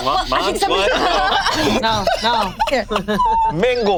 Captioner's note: group laughs